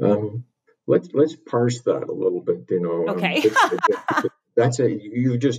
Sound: laughs

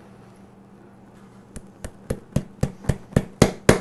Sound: hammering sound

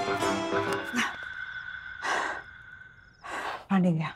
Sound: exhales sharply

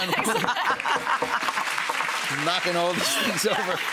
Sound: knocking wood; audience applause

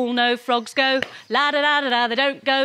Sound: claps

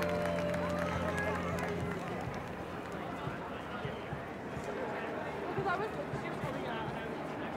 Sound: ambient guitar music; traffic noise

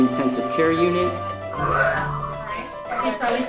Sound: simulated vomiting sounds

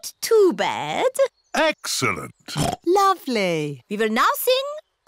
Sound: oinks

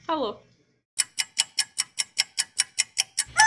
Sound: tic-toc noises

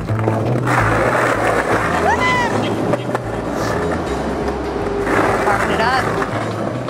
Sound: skateboard rolls on sidewalk

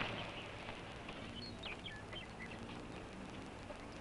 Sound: birds chirping

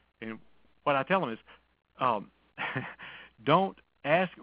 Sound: laughs

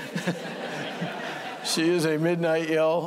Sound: laughter

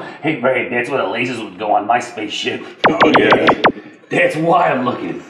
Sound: lasers shooting

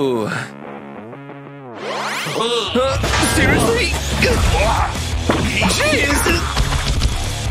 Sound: making angry sounds

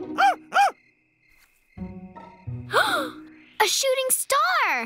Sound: gasps

